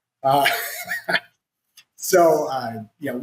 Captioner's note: laughs